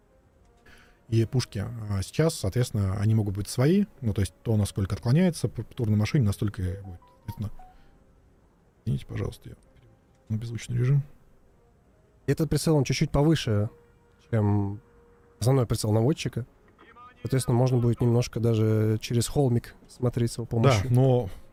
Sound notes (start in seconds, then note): 6.8 phone Notification